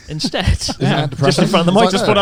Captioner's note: chuckling; laughs